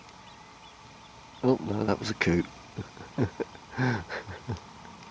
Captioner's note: laughing